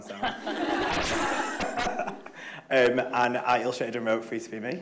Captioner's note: everybody laughs